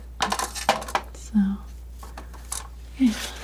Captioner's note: scratching